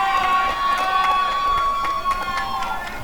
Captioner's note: applause and cheering